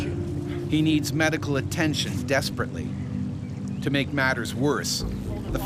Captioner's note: voiceover